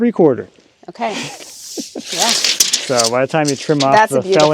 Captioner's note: chuckling